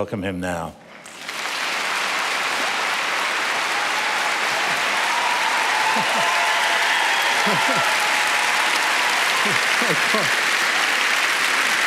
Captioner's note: applause